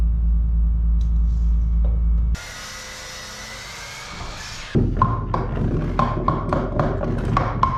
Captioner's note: loud whirring